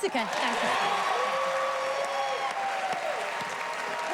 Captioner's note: cheers and applause